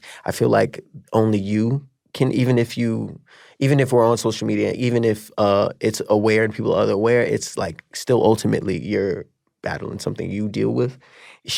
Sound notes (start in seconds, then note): none